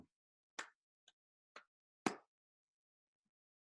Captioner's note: claps